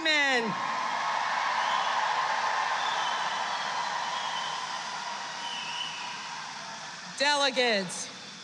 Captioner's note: applause